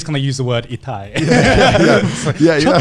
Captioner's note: speaks in foreign language; laughing